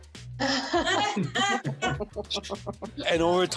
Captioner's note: laughter